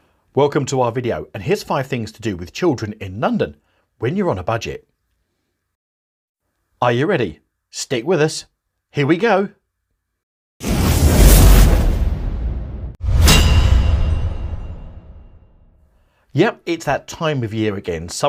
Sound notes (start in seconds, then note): 10.9 dramatic music; 10.9 logo clanging